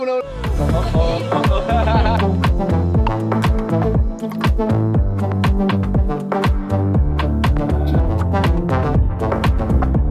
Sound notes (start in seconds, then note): 0.3 cool music; 0.7 laughing; 2.6 cool music